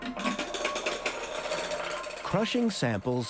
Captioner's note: rattling